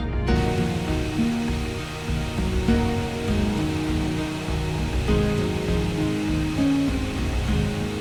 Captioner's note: epic sounds